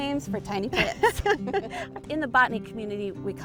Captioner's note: both laughing; laughs